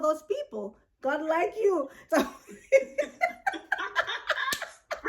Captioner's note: laughs